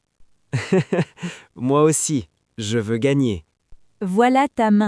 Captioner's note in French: rire